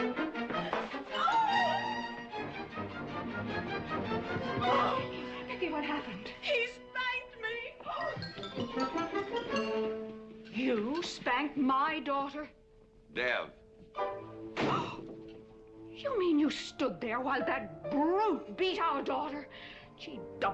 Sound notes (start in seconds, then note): 1.1 sobbing; 15.2 kathy gasps